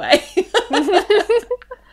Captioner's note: laughs